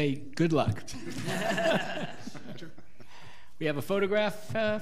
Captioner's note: all laughing